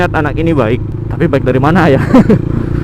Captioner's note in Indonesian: hehehe